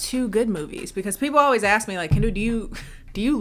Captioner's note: laughs